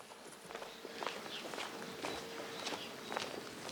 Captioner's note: birds chirping